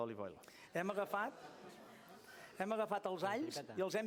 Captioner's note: non-english speech